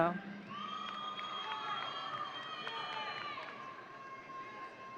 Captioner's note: audience cheering